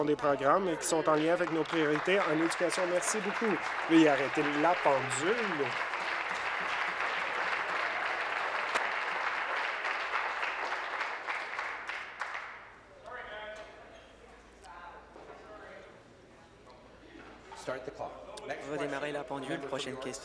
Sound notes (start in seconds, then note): 5.9 applause